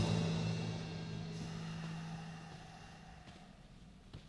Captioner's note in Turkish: Nefes sesi